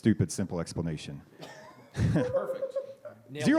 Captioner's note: laughter